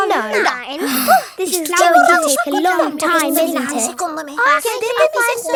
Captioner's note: sighs